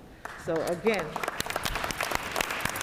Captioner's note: applause